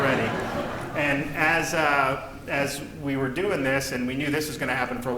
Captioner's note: laughter